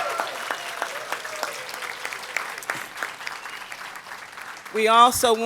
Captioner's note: applause